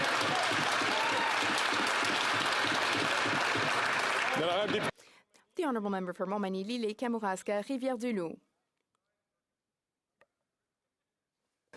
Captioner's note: some Applause